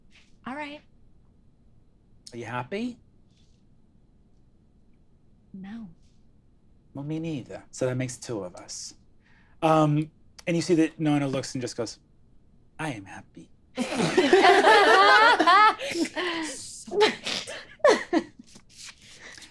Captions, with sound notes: - All right. - Are you happy? - No. - Well, me neither. So that makes two of us. And you see that Nona looks and just goes, I am happy. (all laughing)